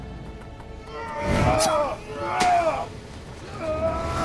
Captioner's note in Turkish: Dövüşme sesleri